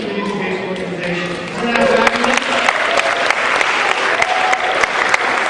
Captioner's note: cheering